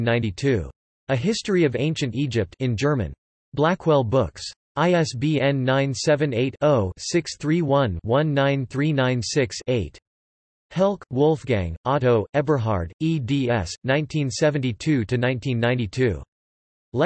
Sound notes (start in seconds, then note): 3.0 in German